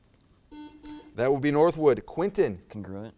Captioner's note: buzzer